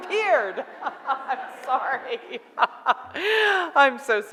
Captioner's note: laughs